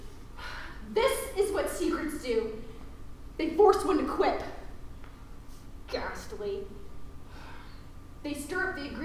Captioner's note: sigh